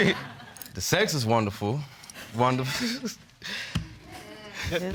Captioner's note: chuckles